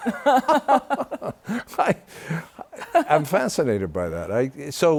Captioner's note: laughter